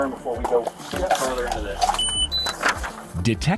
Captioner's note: monitor beeps